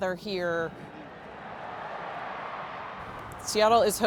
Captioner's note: distance crowd cheering